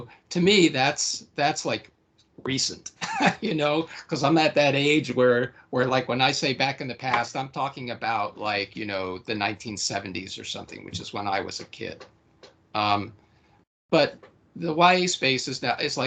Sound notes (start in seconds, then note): 2.9 laughing